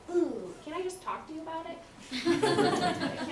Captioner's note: laughter